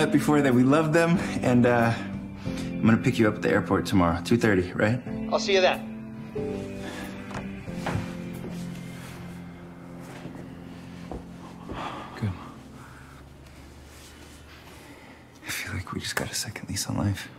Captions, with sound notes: I'm gonna pick you up at the airport tomorrow. 2:30, right? I'll see you then. -(TK sighs) -Good. I feel like we just got a second lease on life. Yeah.